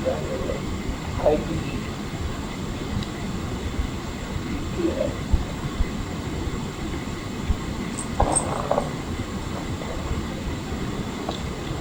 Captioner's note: clinking of coins